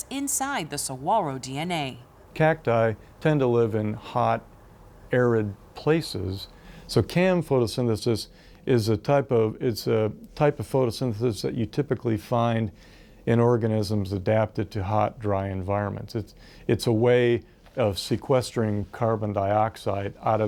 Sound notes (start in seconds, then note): none